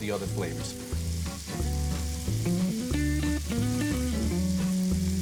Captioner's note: food sizzles in pan; smooth jazz music